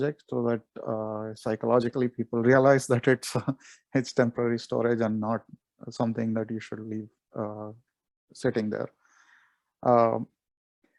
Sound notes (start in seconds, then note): 3.2 chuckles